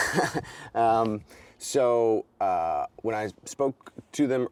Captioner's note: chuckles